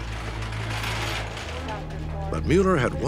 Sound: gurney wheels rolling

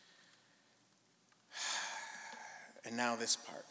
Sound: sighing

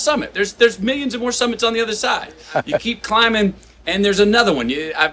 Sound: Sadhguru laughs

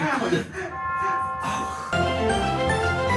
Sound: laughter

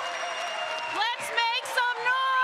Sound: cheering

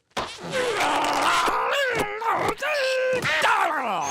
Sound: groaning

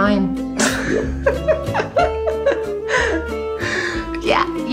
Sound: laughs

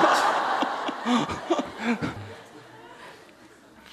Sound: audience laughter

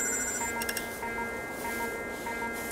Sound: fast alarm

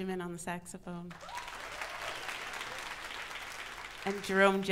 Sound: audience applauds

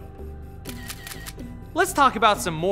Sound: camera snaps

